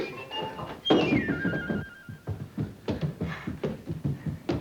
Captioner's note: footsteps plodding; gentle music; both panting